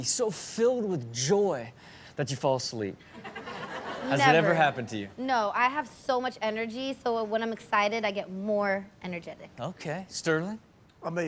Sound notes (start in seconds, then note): 3.2 audience laughs